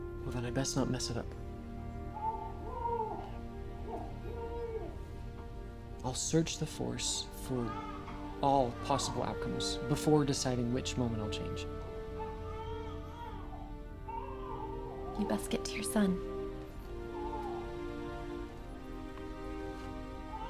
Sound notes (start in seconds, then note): 2.0 baby cries; 11.8 baby continues crying